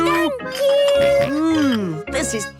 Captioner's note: snorts